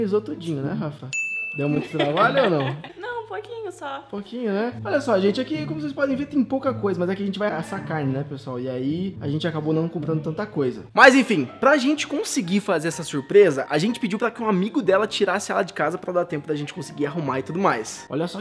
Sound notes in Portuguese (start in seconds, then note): 1.7 Risos